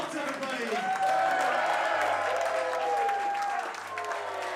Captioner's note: crowd cheering